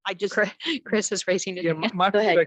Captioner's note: chuckles